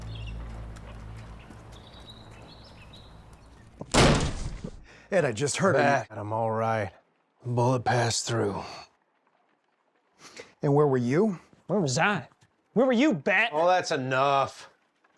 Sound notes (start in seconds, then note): 0.0 birds chirping; 3.8 door slams open